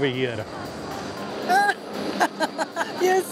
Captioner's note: laughs